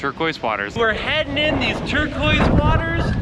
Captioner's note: water splashing; upbeat music